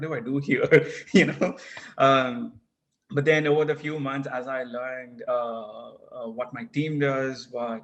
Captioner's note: laugh